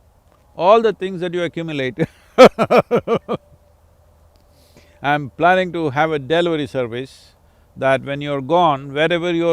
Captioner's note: laughs